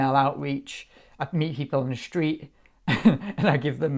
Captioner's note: laughs